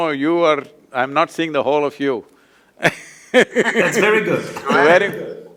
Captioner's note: laughs